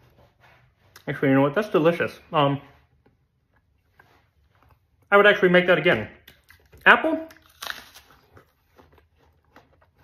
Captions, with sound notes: Actually you know what, that's delicious. I would actually make that again. Apple. [CRUNCH]